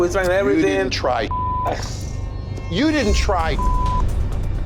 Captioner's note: beep